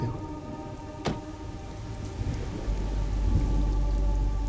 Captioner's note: thunder rumbling